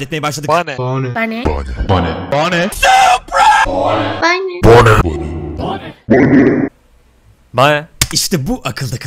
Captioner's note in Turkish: bane sesleri